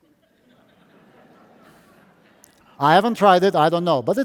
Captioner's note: audience laughing